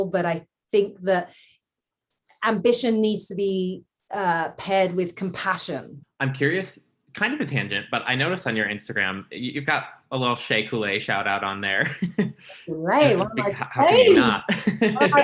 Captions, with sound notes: but I think that ambition needs to be paired with compassion. - I'm curious, kind of a tangent, but I notice on you Instagram, you've got a little Shay Coolay shout out on there. (laughs) - Right, one of my faves! - How could you not?